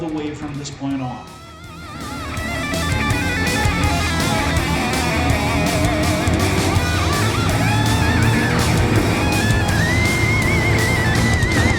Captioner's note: engines revving, cars noises